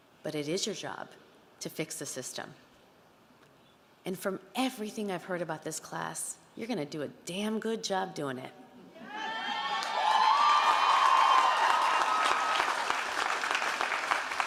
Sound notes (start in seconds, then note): 9.1 audience cheering and applauding